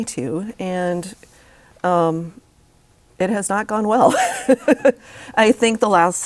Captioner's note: laughs